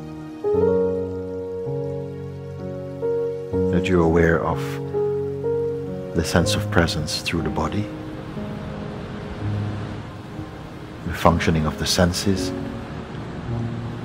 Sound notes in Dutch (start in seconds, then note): 8.3 Geluid van golven en muziek